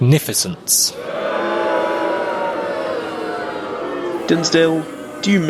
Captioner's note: booing